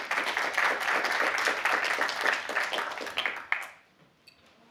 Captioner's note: applause